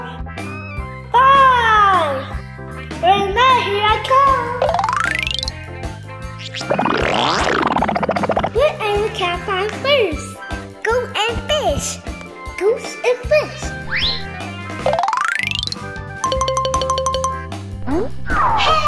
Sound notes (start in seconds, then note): 4.4 upbeat music; 6.6 car gurgling; 16.2 xylophone plinking